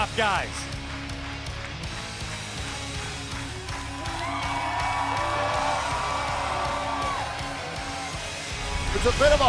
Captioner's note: crowd cheering